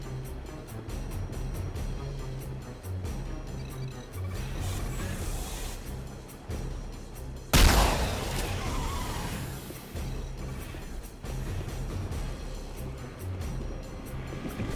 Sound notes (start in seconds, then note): 1.4 dramatic music; 7.5 gun firing; 8.4 dramatic music